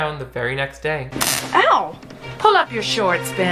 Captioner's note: door handle buzzing